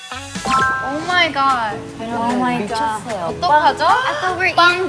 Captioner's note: girls starting to get very excited